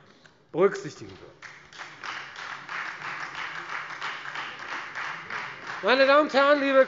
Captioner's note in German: Beifall Freie Demokraten